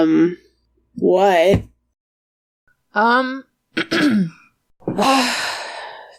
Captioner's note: sighs